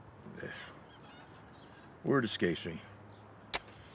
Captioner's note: sighs